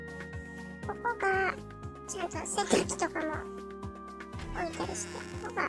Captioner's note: laugh